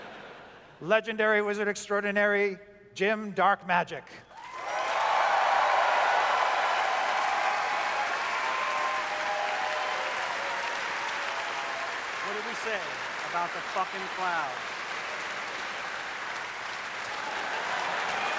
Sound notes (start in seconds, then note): 4.7 audience cheers